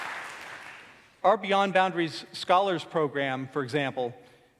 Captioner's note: applause